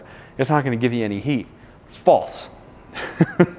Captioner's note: laughs